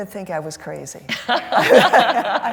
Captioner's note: laughter